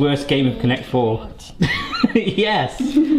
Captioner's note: laughs